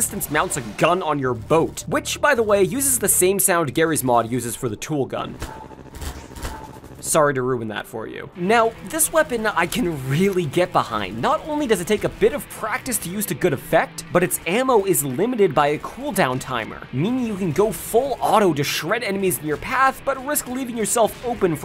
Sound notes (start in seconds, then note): 5.3 twang